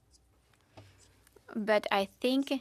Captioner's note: speaking in French